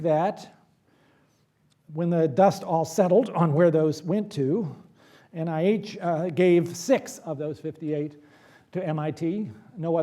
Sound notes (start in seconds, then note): none